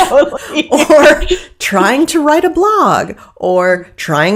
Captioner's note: laughing